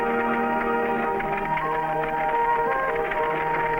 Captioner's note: carriage rattling